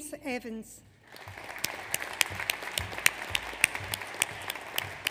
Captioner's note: audience applauds